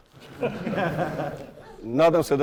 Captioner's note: laughter in the audience